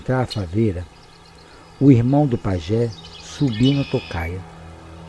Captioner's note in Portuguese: Canto dos pássaros aumenta